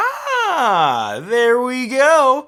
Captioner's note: gasps